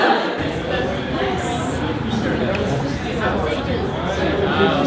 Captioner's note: laughter; party chatter